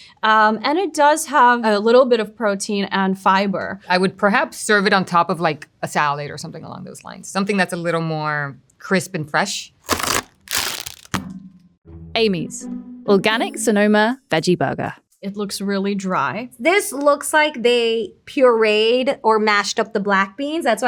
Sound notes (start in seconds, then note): 9.8 packaging rasping; 9.8 patty thudding